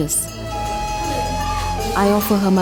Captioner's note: gentle music; bell jingles continues